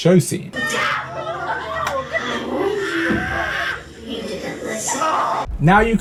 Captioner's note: noisy group of people